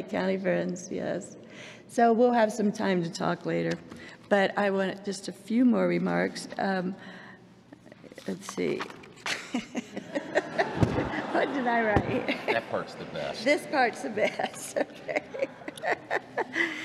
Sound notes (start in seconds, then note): 9.3 laughter; 14.0 laughs